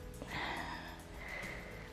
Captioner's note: exhales